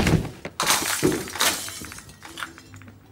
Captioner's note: glass shattering